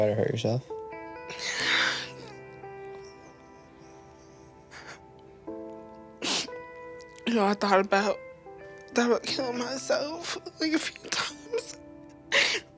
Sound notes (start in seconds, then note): 1.3 crying